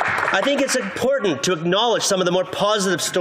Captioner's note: applause